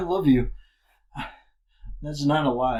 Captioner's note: short breaths